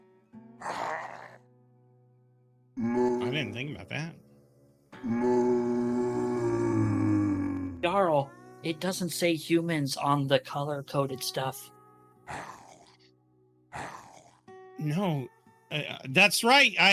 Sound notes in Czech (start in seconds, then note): 0.1 sténání; 7.6 sténání